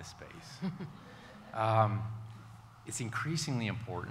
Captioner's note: all laughing